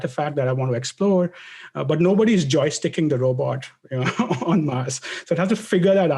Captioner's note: laugh